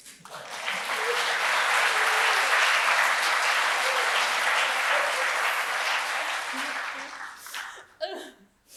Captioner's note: applause